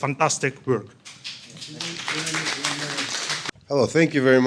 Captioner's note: applauding